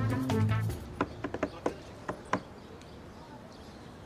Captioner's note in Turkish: Masaya vurma sesi